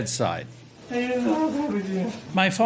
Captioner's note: man speaking Mandarin